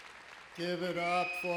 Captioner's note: applause